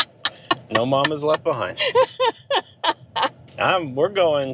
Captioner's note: laughing